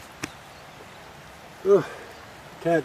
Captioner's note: birds singing